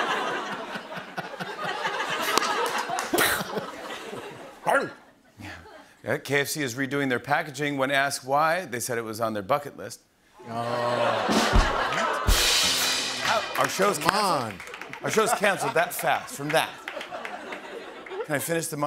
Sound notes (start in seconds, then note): 0.0 laughter; 10.4 audience groans; 12.2 rimshot